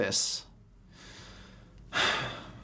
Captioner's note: deep breath